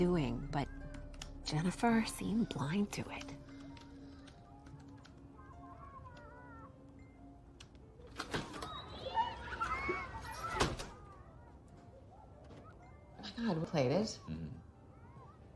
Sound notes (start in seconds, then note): 4.9 children laughing in the background; 8.0 door opens and closes